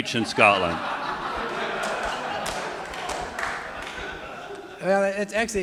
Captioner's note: audience laughing; audience applauding